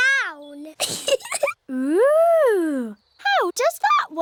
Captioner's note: giggles